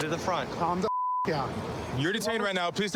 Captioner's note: beep